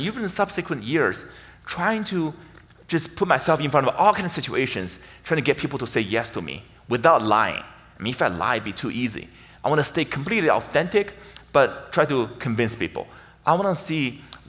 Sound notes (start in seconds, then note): none